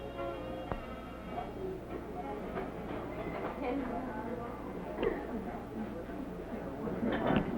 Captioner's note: murmuring